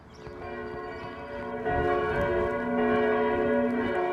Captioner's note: bells tolling